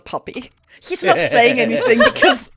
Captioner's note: laughter